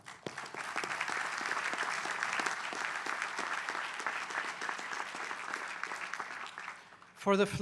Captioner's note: applause